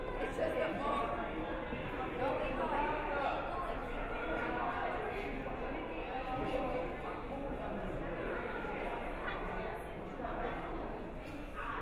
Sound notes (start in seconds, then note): none